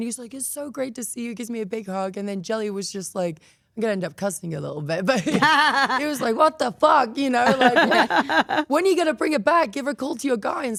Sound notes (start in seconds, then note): 7.4 Stephanie laughs